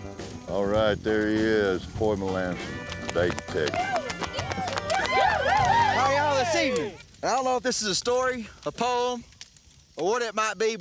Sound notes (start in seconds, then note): 4.2 cheering, applause